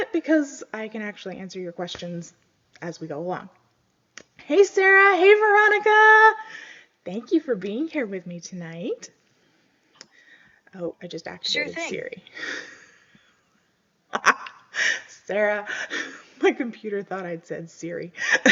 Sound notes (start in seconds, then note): 11.5 laughs